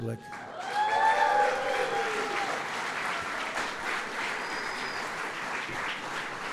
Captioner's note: applause